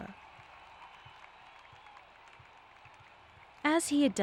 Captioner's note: audience applauding